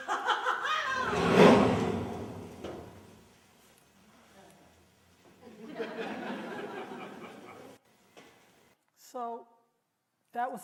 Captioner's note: laughter